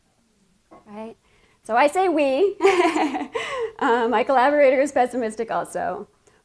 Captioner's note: laughs